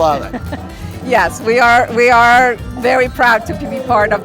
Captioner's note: chuckling